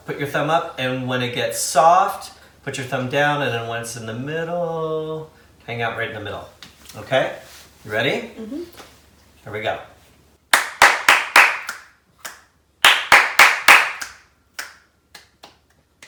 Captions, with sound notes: put your thumb up and when it gets soft, put your thumb down and then when it's in the middle, hang out right in the middle. Okay, you ready? Here we go. (clapping and snapping)